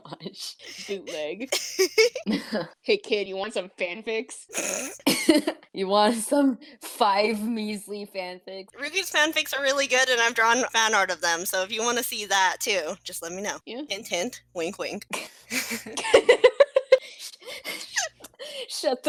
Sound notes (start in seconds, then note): 4.5 snort; 4.6 chuckle; 15.2 laughter